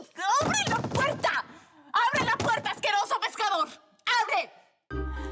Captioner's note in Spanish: Golpes